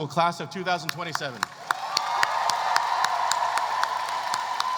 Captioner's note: cheering